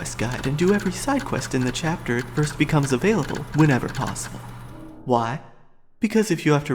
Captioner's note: hard drive clicking